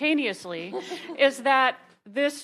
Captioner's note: attendees laughing